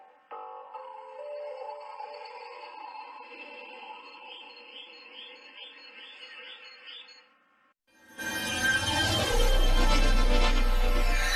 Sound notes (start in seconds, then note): 3.4 birds tweeting; 8.2 digital synth music plays